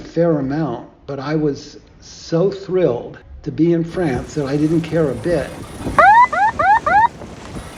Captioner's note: airhorn blasts